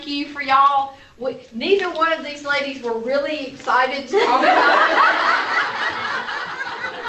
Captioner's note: laughter